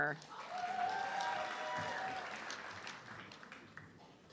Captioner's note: audience clapping